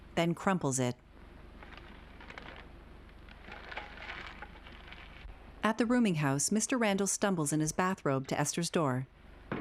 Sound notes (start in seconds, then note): 5.6 feet shuffling